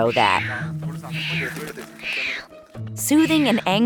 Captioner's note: crying